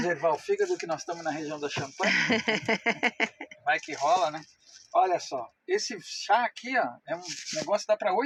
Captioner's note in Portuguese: risadas